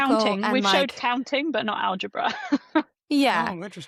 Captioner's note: laughs